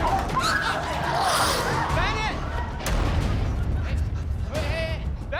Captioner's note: screaming; hisses